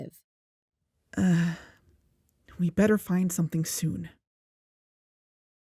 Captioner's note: sigh